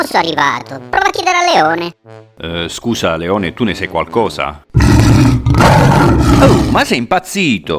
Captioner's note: roaaaar